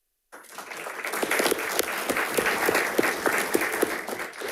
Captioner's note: audience applauding